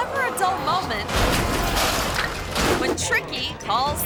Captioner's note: cars crunch